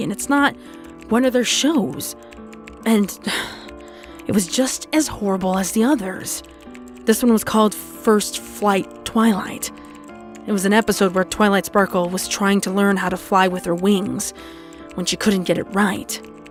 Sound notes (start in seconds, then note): 3.1 sigh